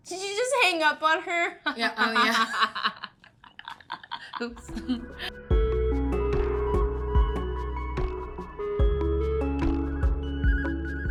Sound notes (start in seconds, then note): 1.7 Becca and Zoey laughing; 6.3 soft music